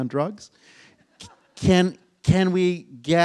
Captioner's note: audience chuckles